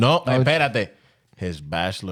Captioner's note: speaking In Foreign Language